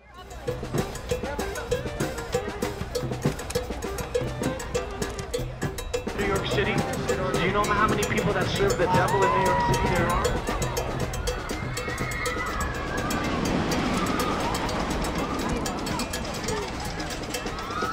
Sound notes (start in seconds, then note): 0.1 street drumming; 3.7 jazzy music; 8.8 riders screaming; 13.9 rollercoaster whirring; 17.6 jazzy music